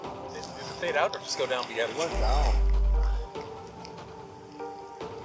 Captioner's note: background chatter about sightings in sky